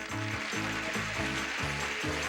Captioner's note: audience applauding